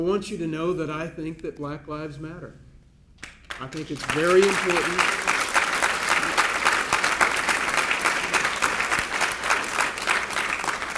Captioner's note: applause